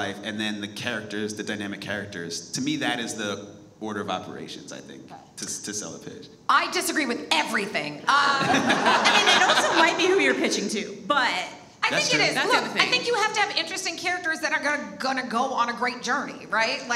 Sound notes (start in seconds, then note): 8.3 all laugh